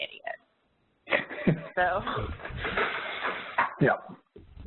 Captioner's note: laughing